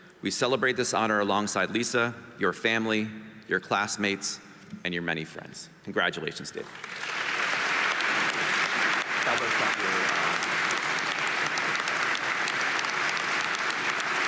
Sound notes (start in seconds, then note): 6.6 audience applauding